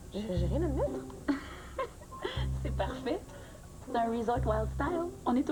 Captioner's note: Rire